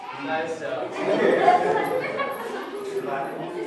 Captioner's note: laughter